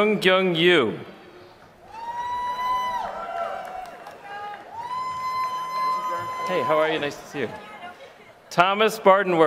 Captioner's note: applause